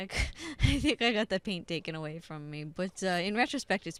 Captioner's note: laughing